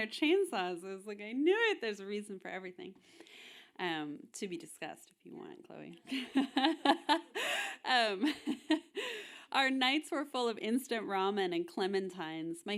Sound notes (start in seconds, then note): 6.3 audience laughing